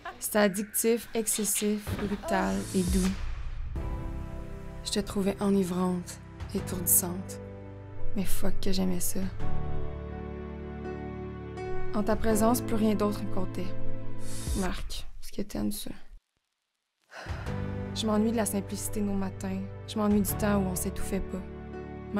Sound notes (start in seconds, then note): 17.1 sigh